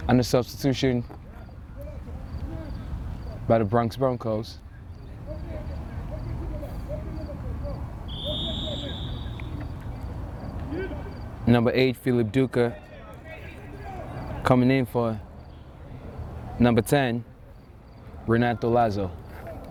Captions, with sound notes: And a substitution by the Bronx Broncos. (whistle) Number eight, Philip Duker, coming in for number 10, Renato Lazo.